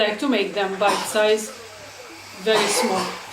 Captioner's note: child coughing